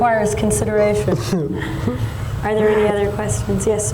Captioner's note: laughing